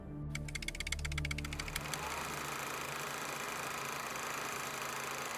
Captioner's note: film projector whirring